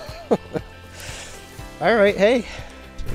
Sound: laughs

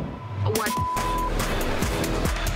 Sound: beep

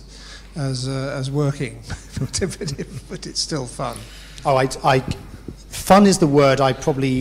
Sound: laugh

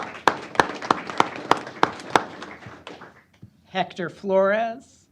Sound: applause

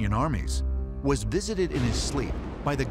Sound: thunder crashing

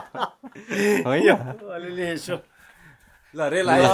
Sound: laughter

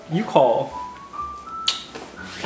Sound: smooches

